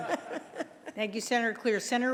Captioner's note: laughter